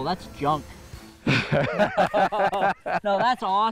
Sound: both laugh

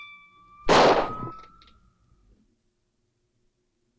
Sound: tingling

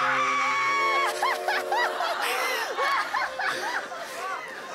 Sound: sighing

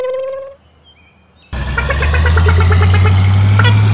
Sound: electric motor hum; engine speed up

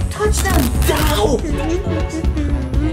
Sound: electricity buzzing; murmuring

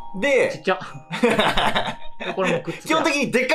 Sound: laughing

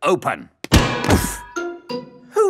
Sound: thuds

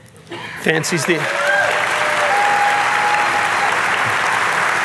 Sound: audience clapping

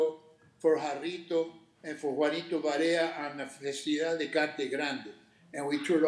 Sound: speaking Spanish

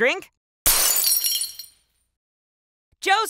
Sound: glass shatters

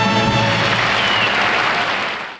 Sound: audience applause

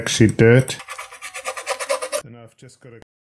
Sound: scraper scratches

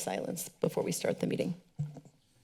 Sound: mic noise; silence

